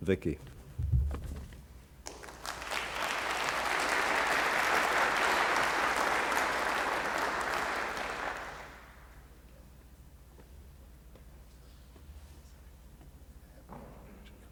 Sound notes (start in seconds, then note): 2.0 applause